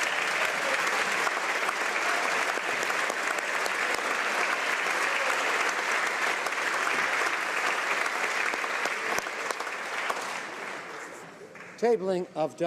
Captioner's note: applause